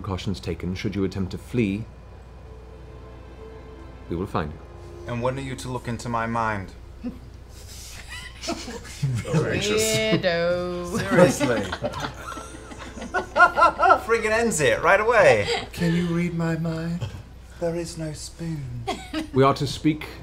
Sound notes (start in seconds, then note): 10.9 laughter